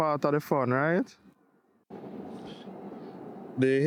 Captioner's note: wind blowing